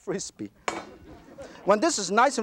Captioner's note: audience laughter